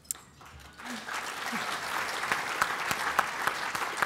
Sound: applause

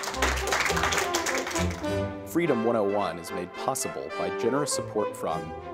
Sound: applause, music

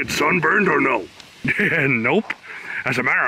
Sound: chuckles

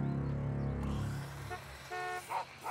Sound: honking

